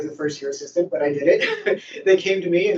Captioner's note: laughs